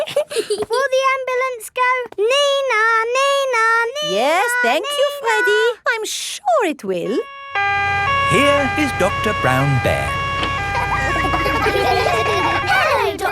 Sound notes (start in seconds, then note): 0.0 both giggling; 7.1 siren wailing; 11.1 kids laughing